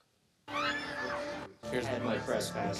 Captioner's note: crowd screaming